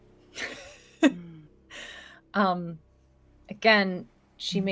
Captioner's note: laughs